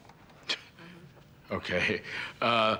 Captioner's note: scoffs